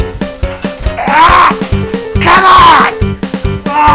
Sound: screams; grunts

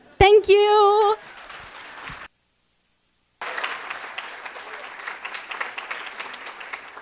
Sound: audience applauding and cheering

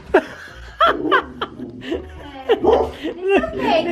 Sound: Penny growling

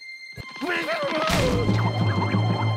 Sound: shouting

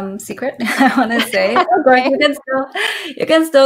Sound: laughs

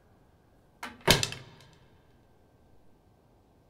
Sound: loud thud echos

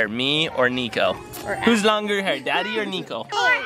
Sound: laughs

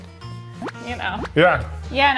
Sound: video game booping

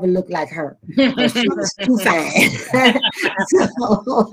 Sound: all laughing

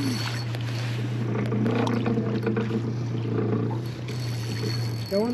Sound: reel cranking; creaking; reel cranking

